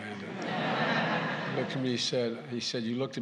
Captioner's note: laughter